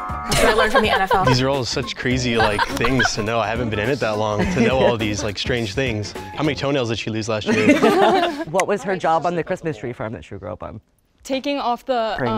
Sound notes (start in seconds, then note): 7.4 everybody laughs